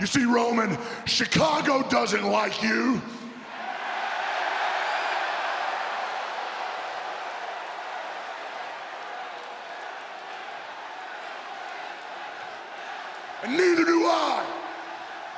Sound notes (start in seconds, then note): 3.7 audience cheers